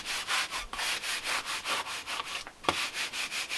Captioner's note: scraping